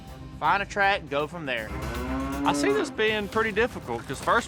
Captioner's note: mooing